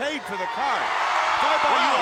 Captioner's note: crowd cheering